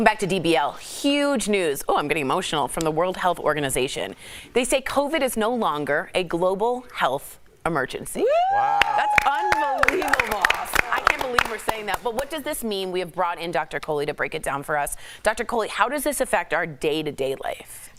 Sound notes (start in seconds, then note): 12.7 applause